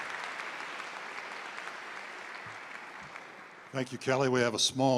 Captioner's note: applause